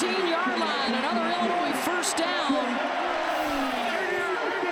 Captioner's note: applause